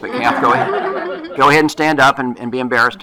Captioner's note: laughter